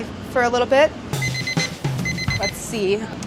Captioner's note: kitchen timer beeping